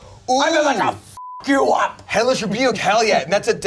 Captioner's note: beep